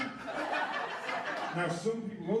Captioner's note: laughter